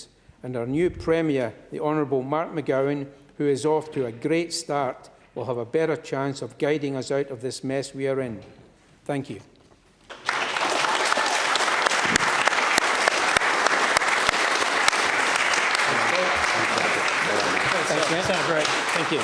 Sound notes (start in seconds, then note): 13.2 applause